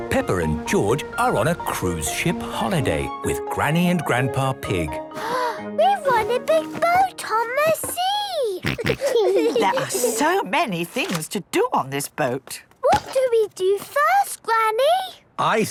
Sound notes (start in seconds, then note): 5.2 gasps; 8.6 snorts, giggles